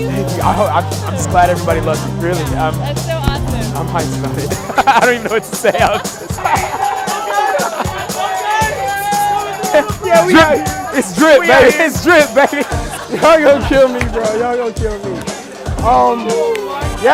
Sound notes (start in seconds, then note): 4.5 laughter; 6.8 crowd yelling